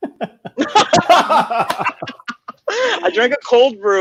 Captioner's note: laughing